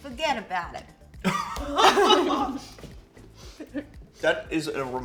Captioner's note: both laugh